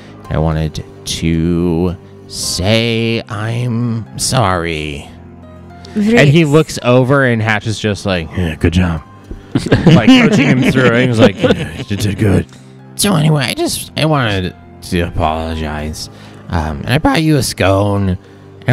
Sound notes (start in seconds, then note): 9.4 laugh